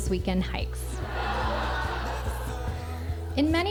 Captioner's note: laughter